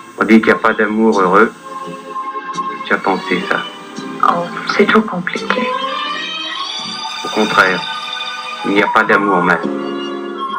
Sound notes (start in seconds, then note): 0.0 voiceover of man speaking in french; 4.0 voiceover of woman speaking in french; 7.2 voiceover of man speaking in french